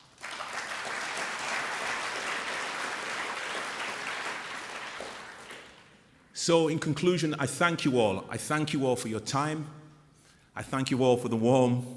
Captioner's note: applause